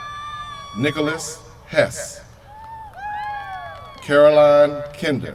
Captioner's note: cheers from crowd